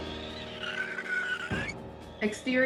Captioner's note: screeching